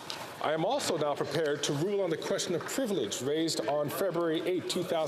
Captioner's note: some Applause